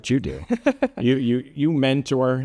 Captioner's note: laughing